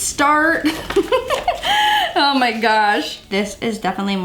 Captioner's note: laughs